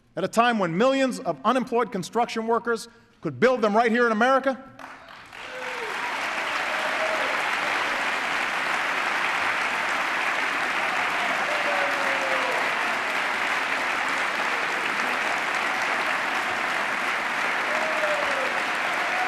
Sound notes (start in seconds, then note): 4.7 applause